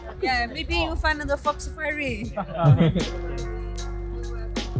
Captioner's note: laugh